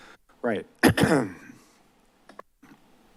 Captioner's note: clears throat